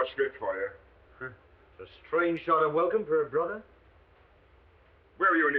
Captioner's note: scoffs